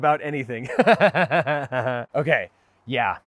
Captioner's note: laughs